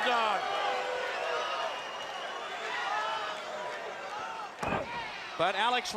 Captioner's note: crowd chatter